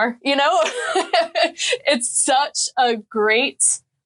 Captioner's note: laughing